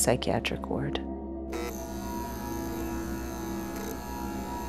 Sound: light buzzing

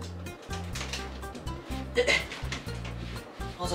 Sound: groans

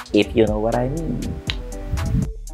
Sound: clicks

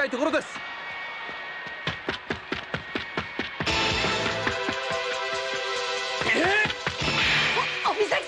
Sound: applause

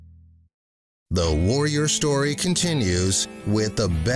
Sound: voiceover

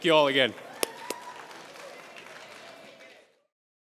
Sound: applause

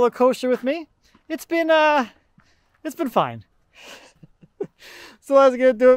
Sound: laughs

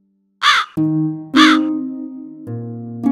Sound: crow crowing

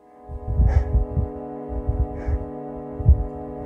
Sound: heavy breathing

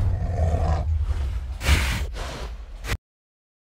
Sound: snorting

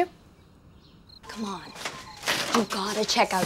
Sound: nocturnal animal noise

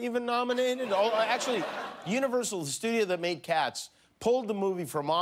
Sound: laughter

